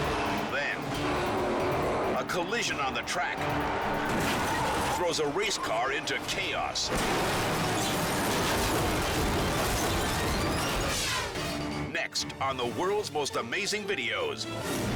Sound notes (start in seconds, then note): 6.8 cars crashing